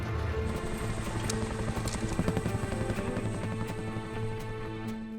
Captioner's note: helicopter rotors whirring